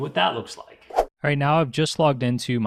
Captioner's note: whooshing